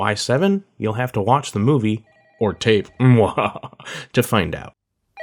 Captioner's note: mwahaha